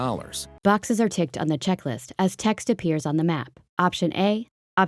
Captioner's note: voiceover